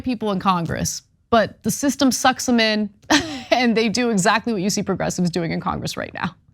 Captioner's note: laugh